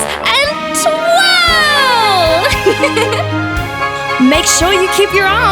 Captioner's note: laughs